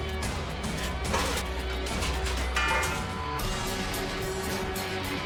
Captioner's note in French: claquement métallique